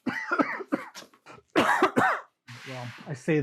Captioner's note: coughing